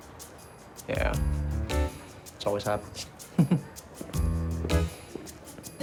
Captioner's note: chuckles